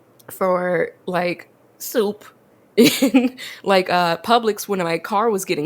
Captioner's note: laughs